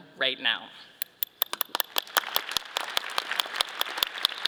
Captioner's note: all clapping